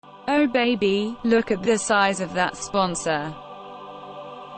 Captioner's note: text-to-speech